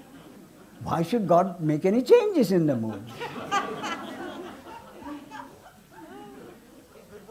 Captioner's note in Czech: smích